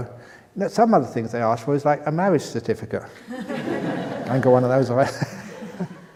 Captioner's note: laughter